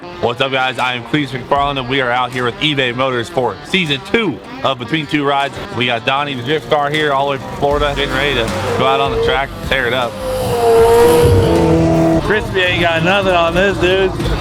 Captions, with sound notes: - What's up, guys? I'm Cleetus McFarland, and we are out with eBay Motors for season two of Between 2 Rides. We got Donnie the Drift Car here all the way from Florida, getting ready to go out on the track and tear it up. (engine roaring) Crispy ain't got nothing on this dude!